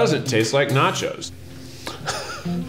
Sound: laughs

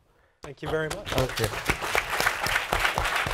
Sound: applause

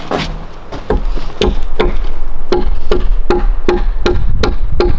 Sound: ax tapping

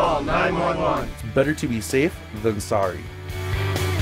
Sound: voiceover; upbeat instrumental music

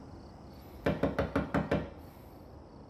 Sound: knock

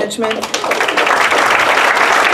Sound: applause

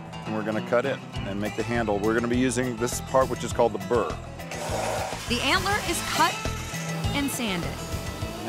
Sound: none

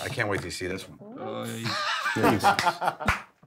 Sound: laughs

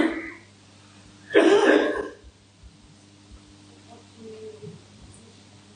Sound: coughing drowning out attendee speaking

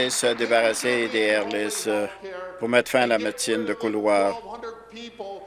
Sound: applause

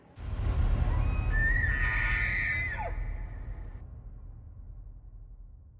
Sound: elk Bugling

